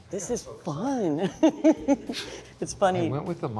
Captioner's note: laughs